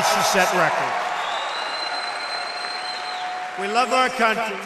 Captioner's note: applause